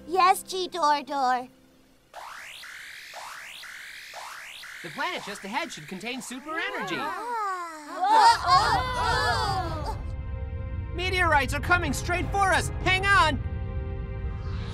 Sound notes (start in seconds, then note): 2.0 signal sound